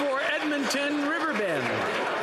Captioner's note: some Applause